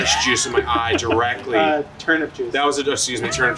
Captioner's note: laughs